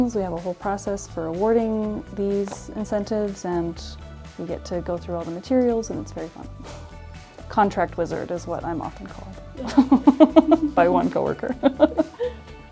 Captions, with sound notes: We have a whole process for awarding these incentives, and we get to go through all the materials. And it's very fun. Contract wizard is what I'm often called, (laughs) by one coworker.